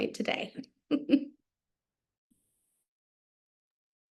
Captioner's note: laughing